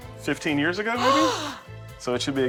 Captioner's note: gasps